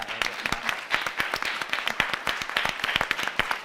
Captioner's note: all applauding